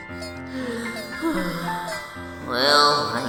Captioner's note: internal sigh